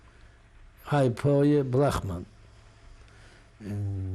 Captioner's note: non-english